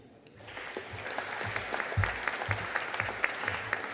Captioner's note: audience applauding